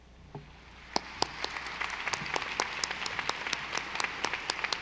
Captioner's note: audience applauding